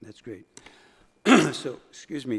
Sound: coughing

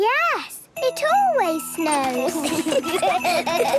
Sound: laughter

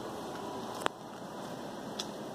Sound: crack

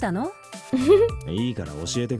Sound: chuckles

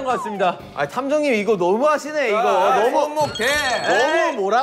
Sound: frustrated

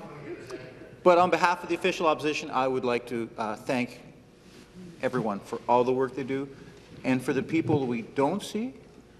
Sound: laughter

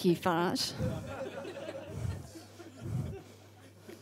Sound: audience laughs

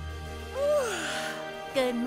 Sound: yawning

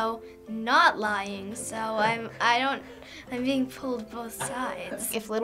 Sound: snicker

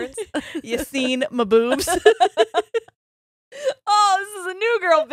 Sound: both laughing

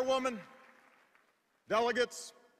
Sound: cheers and applause

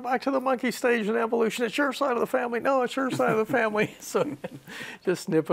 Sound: laughs

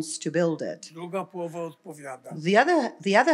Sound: foreign language

